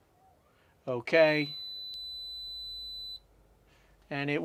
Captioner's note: beep